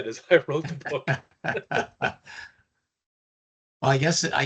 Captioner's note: laughter